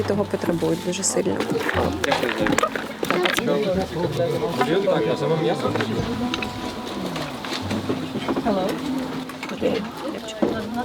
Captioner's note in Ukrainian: побутовий шум, балачки